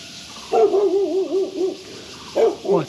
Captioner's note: dog barking